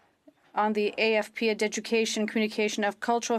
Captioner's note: speaking French